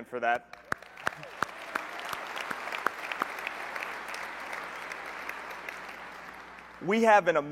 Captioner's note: applause